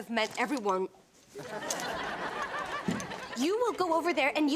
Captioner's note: audience laughs